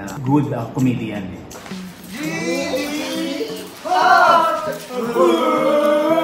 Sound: chanting

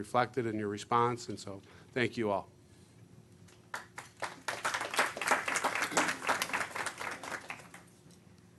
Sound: clapping

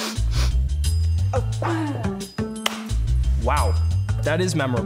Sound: slaps thighs

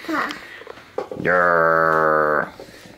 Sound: common father noise

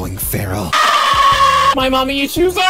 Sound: screaming

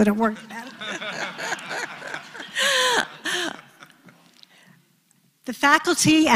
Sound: laugh

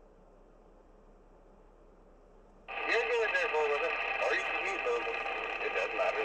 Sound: on radio, through static

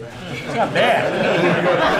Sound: laughter

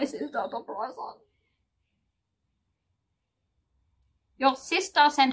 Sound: fake cries

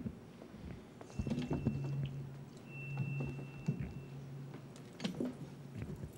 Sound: feedback whining

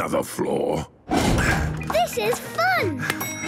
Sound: panting

